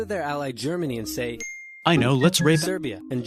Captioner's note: ding